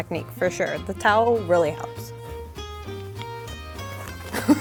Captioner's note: laughs